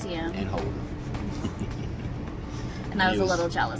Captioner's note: laughs